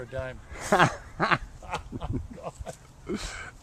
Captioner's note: laughing